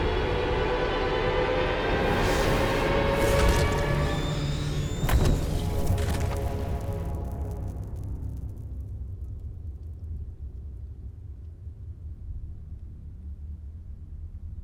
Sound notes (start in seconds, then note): 4.4 dinosaur screeching; 7.1 dramatic music